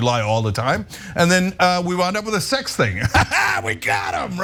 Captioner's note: laugh